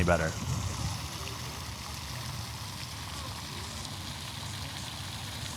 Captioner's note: water fountain pouring